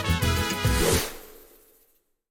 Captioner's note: lively guitar music; swooshing